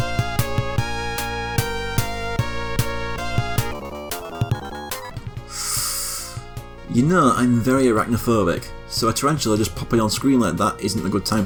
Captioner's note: sucks in air through teeth